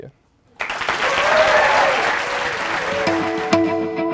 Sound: applause

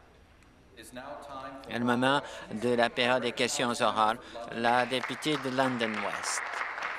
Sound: applause

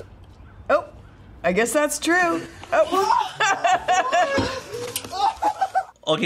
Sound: laughs

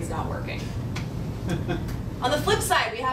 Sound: laughing

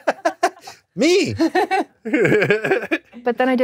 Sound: laughs; both laugh

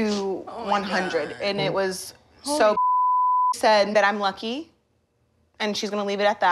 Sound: beep

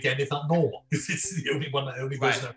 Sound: laughing

